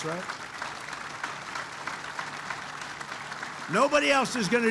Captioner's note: applause